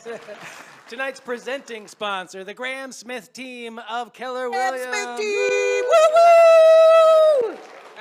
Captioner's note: cheers and applause